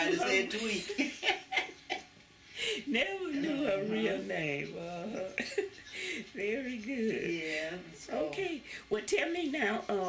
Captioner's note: laughter